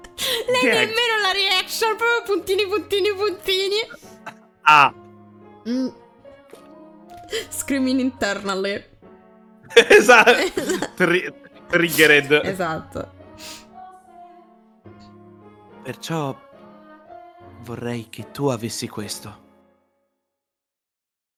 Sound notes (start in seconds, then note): 7.7 extreme Italian accent